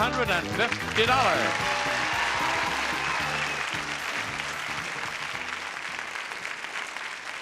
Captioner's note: audience cheering